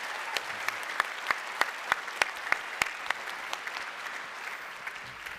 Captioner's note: applause